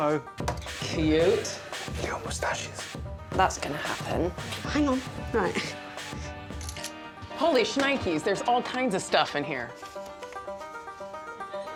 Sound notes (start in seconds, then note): 7.3 camera clicking